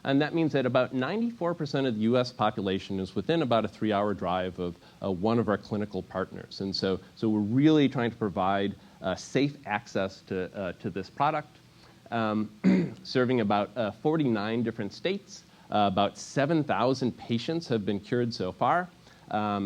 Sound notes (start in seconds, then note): 12.6 cough